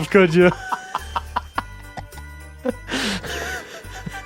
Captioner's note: laughing